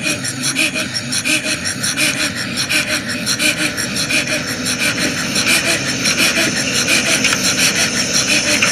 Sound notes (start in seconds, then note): 3.9 crickets chirping